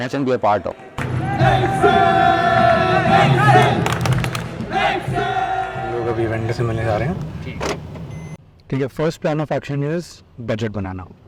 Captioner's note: crowd Cheering